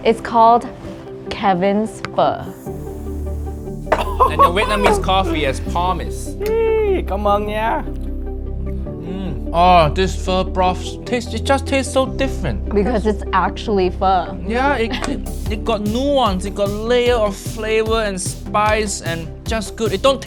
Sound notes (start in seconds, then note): 3.9 nephew loan shark chuckling; 7.5 speaks Vietnamese